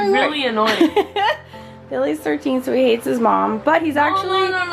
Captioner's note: laughs